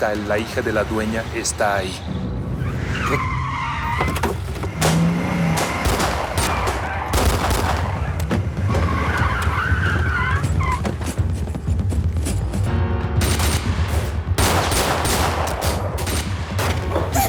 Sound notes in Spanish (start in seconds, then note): 4.0 Chirrido de llantas; 4.7 Disparos; 8.7 Chirrido de llantas; 13.1 Disparos; 17.1 Gritos